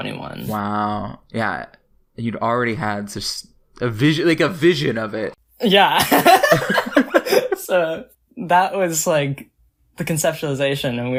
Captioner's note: both laugh